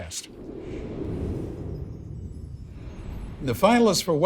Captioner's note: wind whooshing; bells chiming